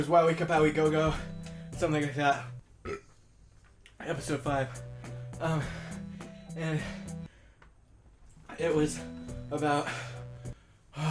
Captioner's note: burp